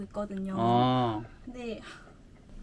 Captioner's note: sighs